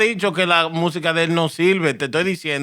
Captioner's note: non-english Speech